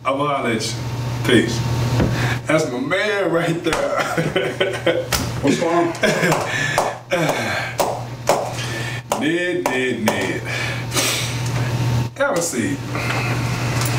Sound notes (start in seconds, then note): 3.6 chuckles; 6.6 Kenny taps pen on desk